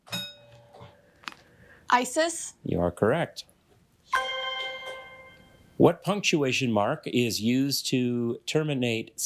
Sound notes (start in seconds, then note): 0.1 bell rings; 4.1 bell dings